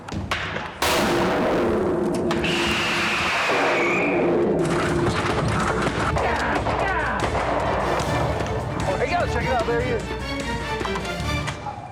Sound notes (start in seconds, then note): 0.8 device explodes and whistles; 4.6 claws clicking; 4.7 bear huffing; 7.2 gun blasting; 11.6 shotgun clacking